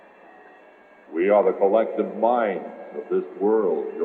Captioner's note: disembodied Voice